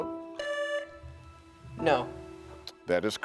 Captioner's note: buzzer sounding